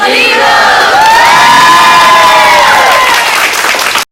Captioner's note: cheers and claps